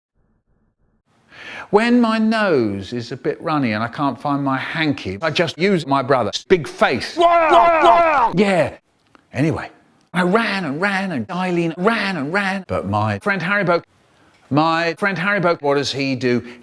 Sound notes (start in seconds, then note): 7.1 person watching Shane Dawson noises